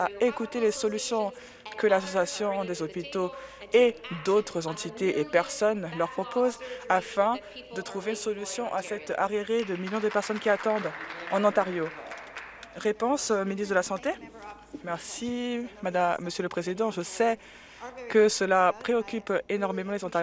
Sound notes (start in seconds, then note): 12.7 applause